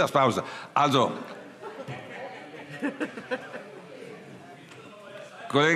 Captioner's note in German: Heiterkeit